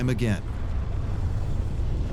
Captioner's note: deep rumble